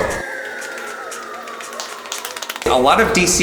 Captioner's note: footsteps pattering